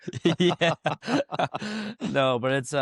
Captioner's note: laughs